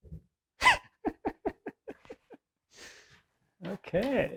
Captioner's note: laughing